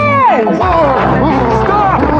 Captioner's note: gruntntining